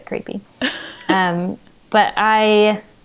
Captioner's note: laughs